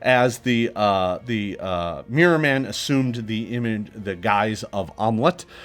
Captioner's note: none